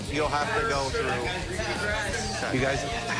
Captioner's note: arguing